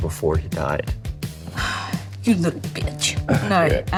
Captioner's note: sighs